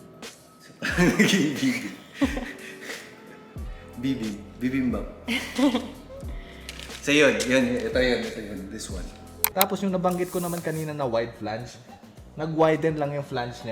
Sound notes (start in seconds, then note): 0.9 chuckles